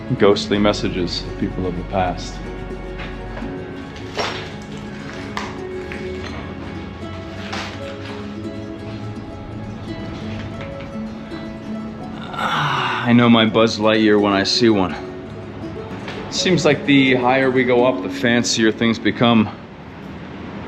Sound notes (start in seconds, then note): 3.9 debris crunching; 4.4 ominous music